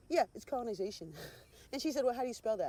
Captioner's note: scoffing